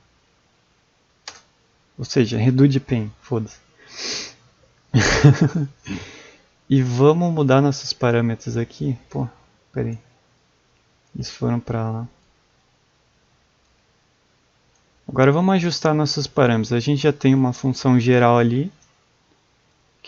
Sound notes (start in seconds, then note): 4.9 laugh